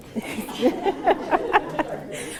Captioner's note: laughter